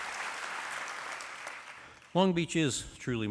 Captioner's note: applause